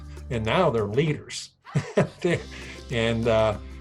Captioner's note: chuckles